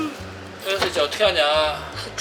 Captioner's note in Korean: 뒤적뒤적